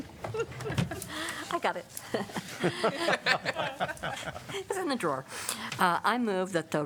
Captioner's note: laughter